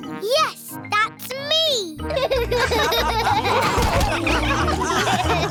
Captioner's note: all laughing